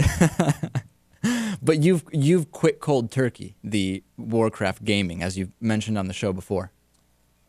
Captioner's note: laughs